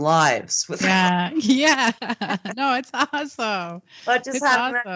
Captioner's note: both laughing